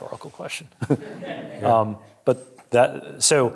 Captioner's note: audience chuckling